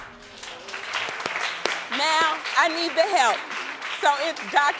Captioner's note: audience applauding